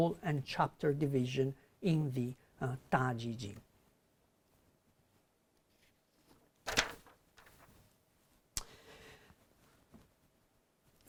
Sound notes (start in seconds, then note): 4.8 pause, pages turning